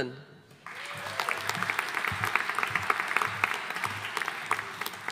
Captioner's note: audience applauding